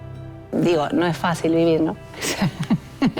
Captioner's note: laughs